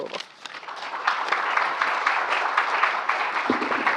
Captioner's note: applause